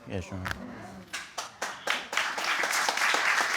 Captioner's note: audience clapping